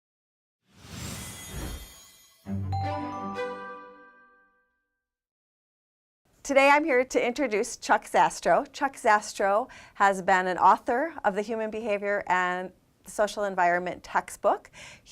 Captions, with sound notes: (whoosh) (chiming) Today I'm here to introduce Chuck Zastrow. Chuck Zastrow has been an author of the Human Behavior and Social Environment textbook.